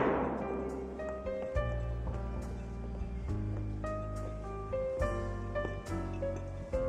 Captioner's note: gavel thunks; gentle music